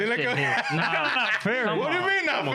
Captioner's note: laughing